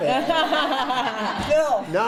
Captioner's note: laughter